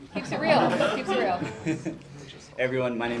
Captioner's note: laughter